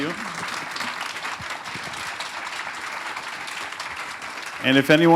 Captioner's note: applause